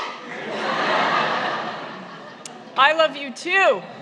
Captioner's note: laughter